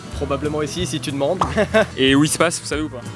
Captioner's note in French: il rit